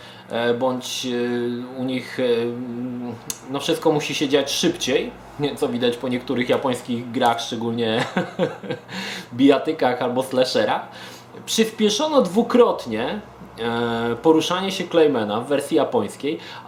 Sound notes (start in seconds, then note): 8.0 chuckles